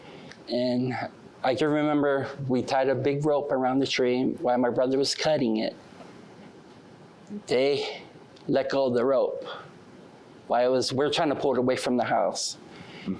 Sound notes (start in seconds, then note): none